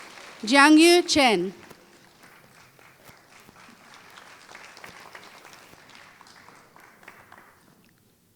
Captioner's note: applause